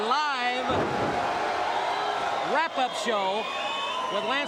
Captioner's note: crowd cheering